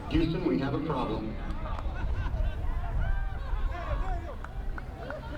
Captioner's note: electronic Voice